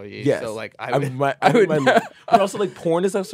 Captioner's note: laughs